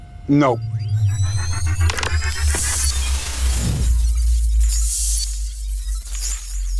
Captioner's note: sound effects